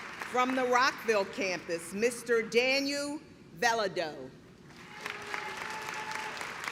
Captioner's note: clapping